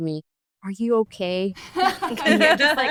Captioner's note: group laughs